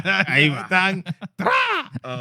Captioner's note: speaking In Foreign Language